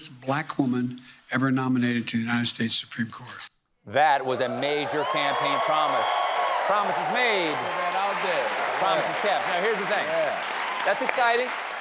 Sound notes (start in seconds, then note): 7.8 cheers and applause